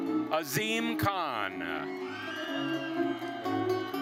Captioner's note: attendees cheering; lively orchestral music continues